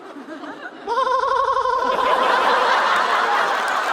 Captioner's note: laughing